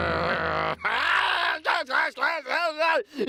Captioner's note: screaming